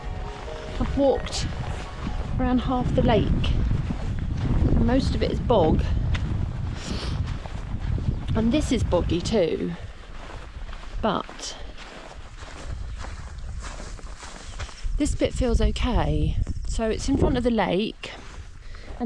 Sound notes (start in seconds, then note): none